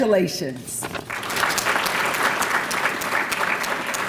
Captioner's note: applause